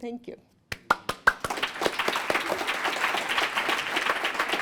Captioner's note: applause